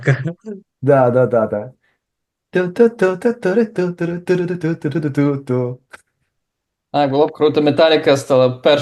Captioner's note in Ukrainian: наспівує